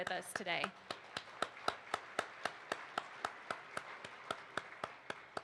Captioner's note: participants applauds